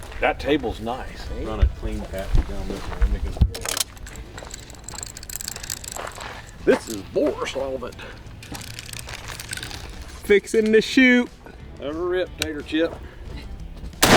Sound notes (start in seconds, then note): 3.6 object rattles; 8.3 object rattling; 14.0 gun firing